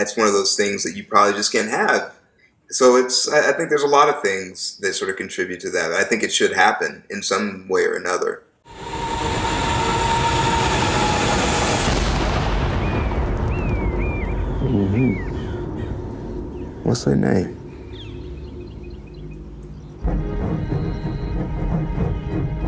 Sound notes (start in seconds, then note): 8.7 dramatic music; 11.5 gunshot; 13.5 birds chirping; 20.1 train chugging